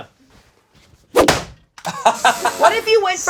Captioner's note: air swooshing; laughing